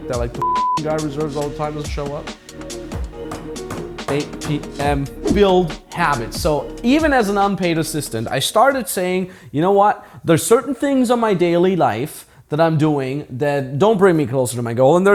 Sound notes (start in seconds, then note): 0.4 beep; 2.7 hand banging